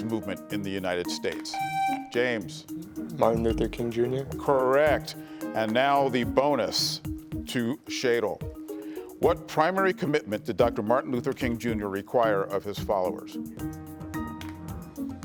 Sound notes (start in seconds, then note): 1.5 buzzer buzzing